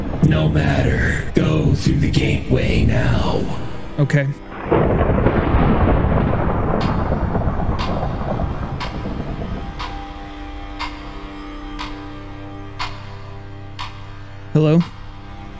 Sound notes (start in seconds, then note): 4.5 thunder; 7.6 clock ticking; 14.6 clock ticking